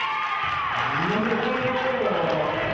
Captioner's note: cheering and clapping